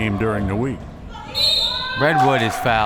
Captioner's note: whistle